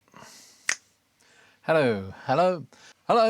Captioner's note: snaps